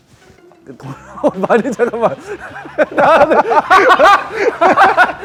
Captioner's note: production team laughing like it’s ridiculous